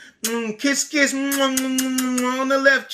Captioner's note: kisses